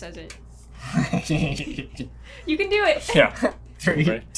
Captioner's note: laughter